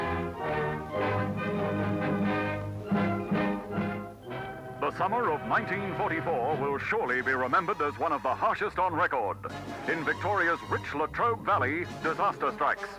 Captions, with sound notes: (speaking over radio) "The summer of 1944, wil surely be remembered as one of the harshest on record." "In Victoria's rich Latrobe Valley, disaster strikes."